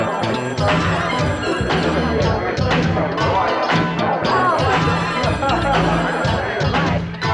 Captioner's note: phone ringing; upbeat synthesizer music